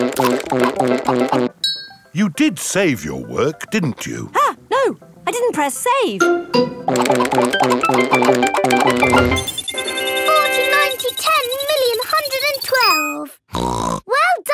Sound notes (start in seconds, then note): 9.5 beeping; 13.5 snorts